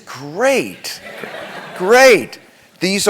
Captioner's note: laugh